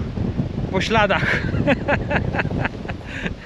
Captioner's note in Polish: śmiech